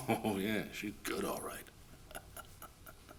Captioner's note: chuckling